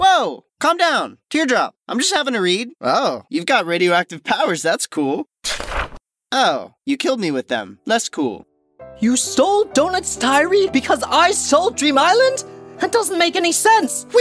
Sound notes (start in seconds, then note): 5.4 page turning sound